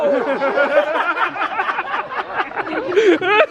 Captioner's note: all laugh